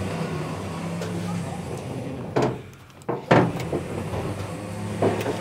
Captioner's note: car sounds